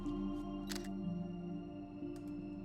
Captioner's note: camera shutter